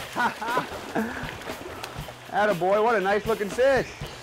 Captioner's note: laughter